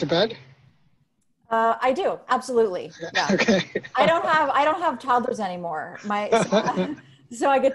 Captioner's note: laughs